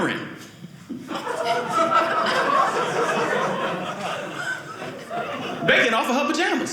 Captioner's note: audience laughing